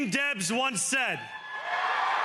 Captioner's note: cheering and applause